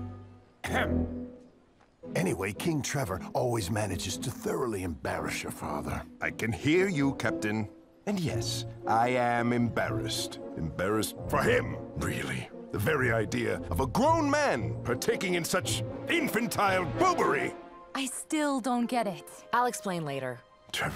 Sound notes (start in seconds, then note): 0.6 coughs